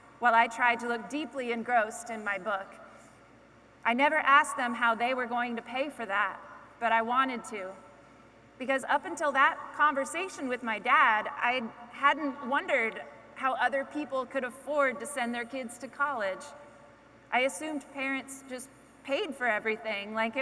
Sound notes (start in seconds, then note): none